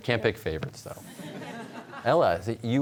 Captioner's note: audience chuckles